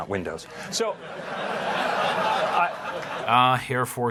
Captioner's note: audience laughing